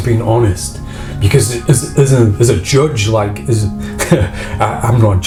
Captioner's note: laughs